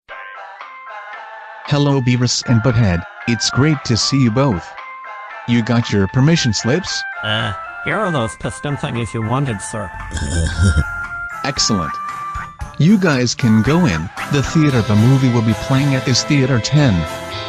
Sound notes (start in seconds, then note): 10.1 laughs